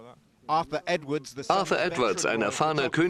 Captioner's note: voiceover